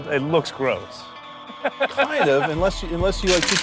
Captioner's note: laughs